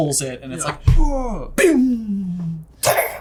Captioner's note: thumps